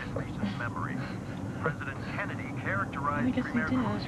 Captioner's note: chuckles